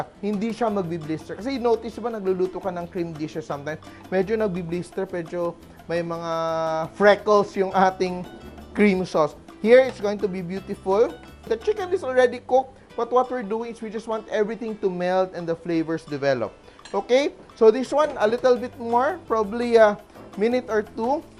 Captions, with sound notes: It doesn't blister. Because you'd notice -- when you cook cream dishes sometimes, -- it, kind of, blisters. There are some freckles in our -- cream sauce. Here, it's going to be beautiful. The chicken is already cooked, -- but what we're doing is, -- we just want everything to melt -- and the flavors develop. [Clink] Okay? So, this one, -- a little bit -- more. Probably a -- minute or two.